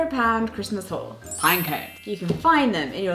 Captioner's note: magical chiming